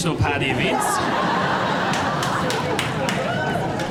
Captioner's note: crowd laughs